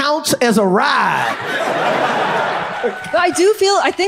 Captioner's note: audience laughs